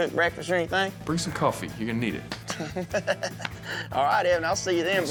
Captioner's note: laughs